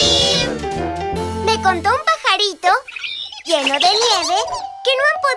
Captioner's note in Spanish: Sonido de pájaro